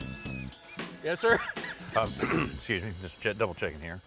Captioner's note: clears throat